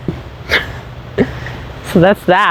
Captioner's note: chuckles